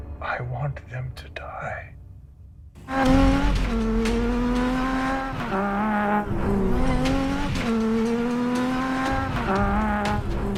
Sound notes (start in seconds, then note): 1.9 tense music; 2.8 engine revving